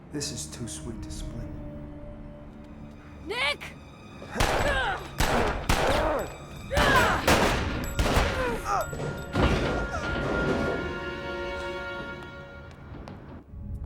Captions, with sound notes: This is too sweet to split. - Nick! (Nick grunts) (guns blasting) (Nick groans) (body thuds)